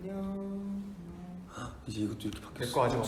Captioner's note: gasp